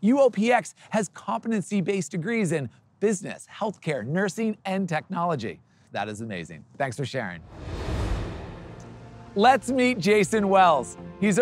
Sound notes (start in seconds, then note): 7.4 transition whooshing; 8.6 upbeat music